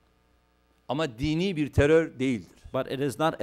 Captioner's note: non-english speech